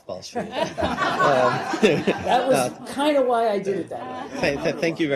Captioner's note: laughter